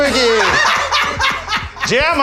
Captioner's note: laughs